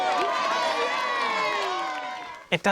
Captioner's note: cheering